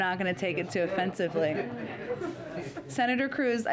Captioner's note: laughter